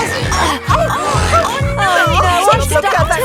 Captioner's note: grunting